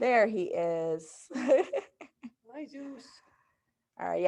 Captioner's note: laughing